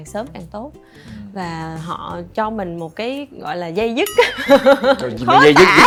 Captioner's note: laugh